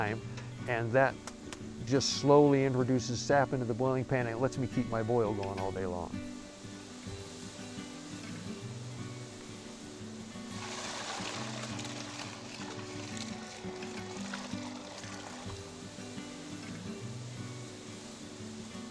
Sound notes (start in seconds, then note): 6.3 gentle music; 10.4 sap pouring; 15.6 sap simmering